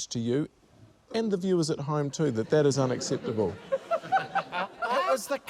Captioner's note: laughter